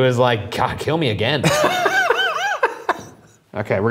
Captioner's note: chuckling